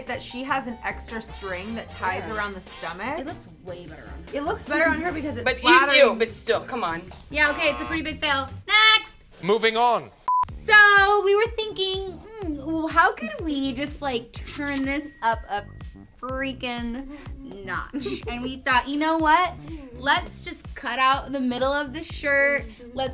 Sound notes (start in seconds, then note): 7.4 buzzer sounds; 10.2 beep; 13.9 cashier sounds; 17.9 laugh